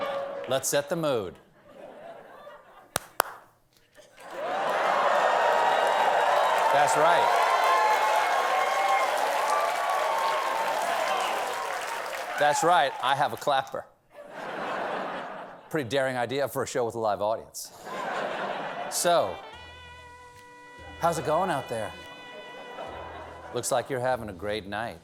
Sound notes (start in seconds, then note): 1.5 laughter; 5.3 clap, clap; 8.3 cheers and applause